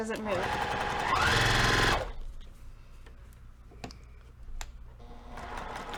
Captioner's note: sewing machine rattling; sewing machine rattling